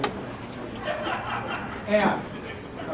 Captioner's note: laugh